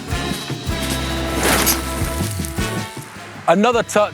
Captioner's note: bike rushing